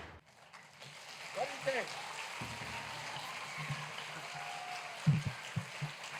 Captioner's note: applause